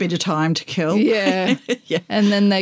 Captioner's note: laughter